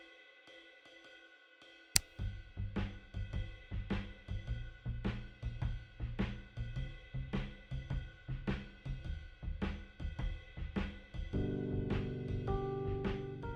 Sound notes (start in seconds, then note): 1.9 light Switch Clicks